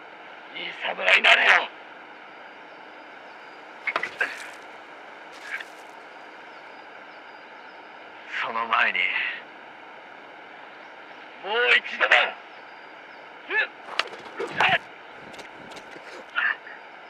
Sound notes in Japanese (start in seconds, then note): 14.0 頭を叩く音